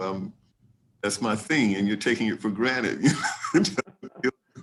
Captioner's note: laughs